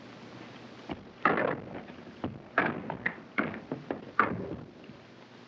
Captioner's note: boots thudding